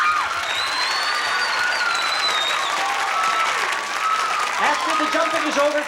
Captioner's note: screams, cheering and applause